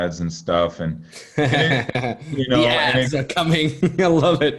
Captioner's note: chuckling